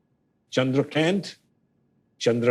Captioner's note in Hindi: अंग्रेज़ी लहज़े में